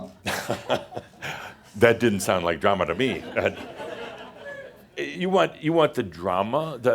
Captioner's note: chuckles; some chuckles